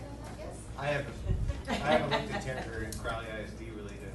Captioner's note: laughing